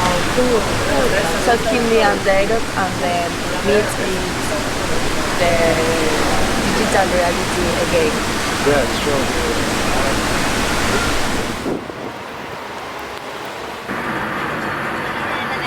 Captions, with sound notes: - Ah, cool, so keep me updated and ehm, we'll meet in the digital reality again. - Yeah, sure. (rain sounds)